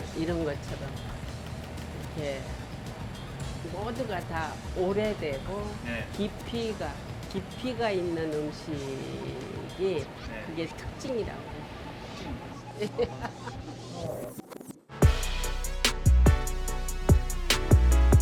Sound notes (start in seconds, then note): 12.2 laughing; 15.4 upbeat hip hop